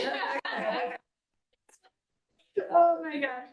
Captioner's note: board members laughing